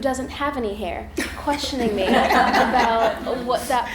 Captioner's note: others laughing